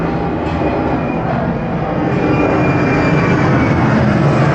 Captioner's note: the sound of planes passing